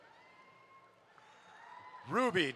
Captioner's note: audience applauds